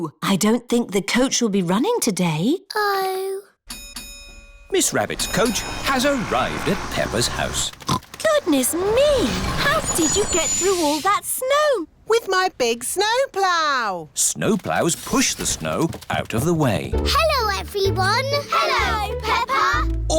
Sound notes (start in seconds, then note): 3.7 coach bell dings; 7.1 oinks